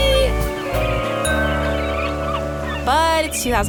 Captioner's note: gentle music; seagulls squawk